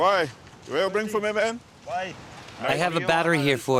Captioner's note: foreign language spoken